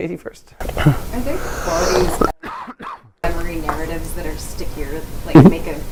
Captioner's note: cough